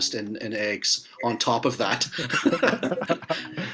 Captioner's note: laughs